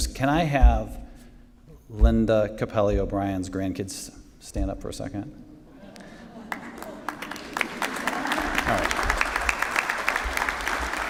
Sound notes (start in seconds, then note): 6.4 applause